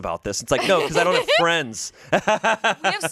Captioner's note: laughs